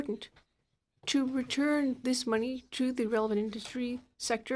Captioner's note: speaking in French